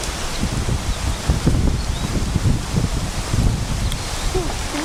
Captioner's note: wind Blowing Through Leaves